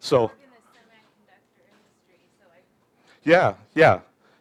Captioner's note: murmurs